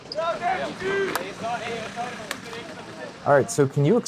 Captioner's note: distant crowd noises